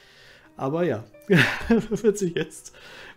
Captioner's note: chuckles